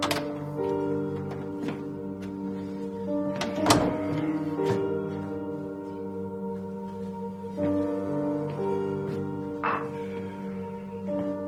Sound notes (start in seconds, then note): 0.1 subtle music; 3.3 door bangs; 6.9 subtle music